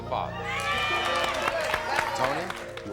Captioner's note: crowd cheering